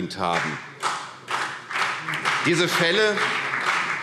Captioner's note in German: Beifall CDU und BÜNDNIS 90/DIE GRÜNEN